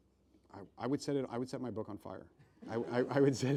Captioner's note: laughs